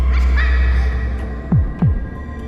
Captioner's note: child laughs